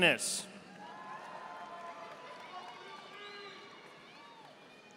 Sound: audience applauding

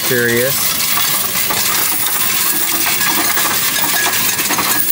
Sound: coins rattling

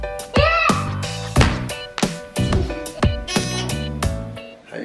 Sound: shouts; buzzer beeps

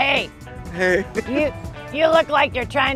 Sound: laughs

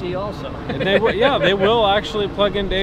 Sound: laughs

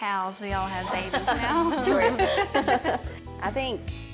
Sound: everyone laughs

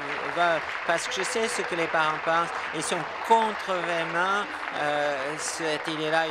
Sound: applause

